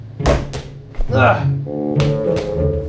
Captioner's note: hitting; grunting; hitting